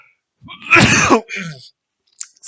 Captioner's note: disgusting cough or sneeze